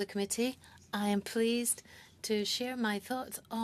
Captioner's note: speaking french